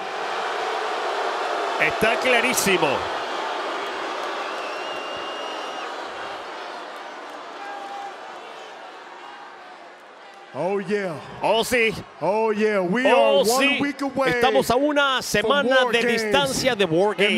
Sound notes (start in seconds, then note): 4.4 applause